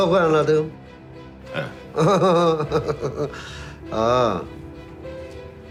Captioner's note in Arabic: يضحك